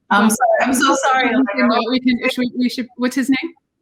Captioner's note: both conversing